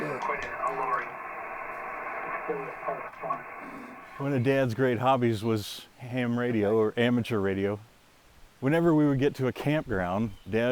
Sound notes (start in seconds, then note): 3.3 static scratching